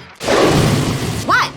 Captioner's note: animal growling